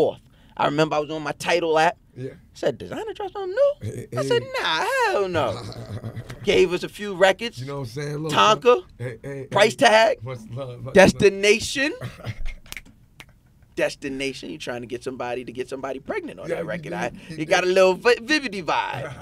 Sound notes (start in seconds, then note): 4.9 laughing; 12.6 snapping; 18.9 laughing